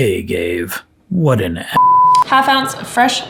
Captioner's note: beep